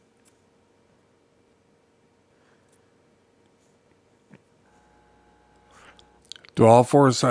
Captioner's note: silence